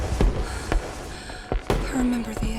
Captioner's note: fireworks booming; Evelyn gasping